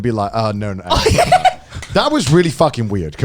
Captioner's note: laughing